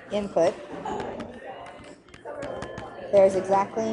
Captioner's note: stylus taps